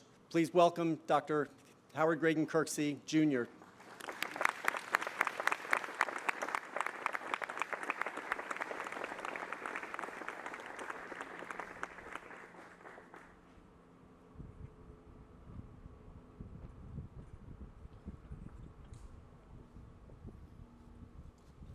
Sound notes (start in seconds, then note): 3.7 applause